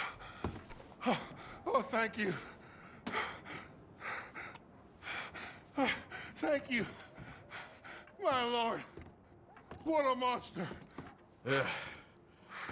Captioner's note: breathing heavily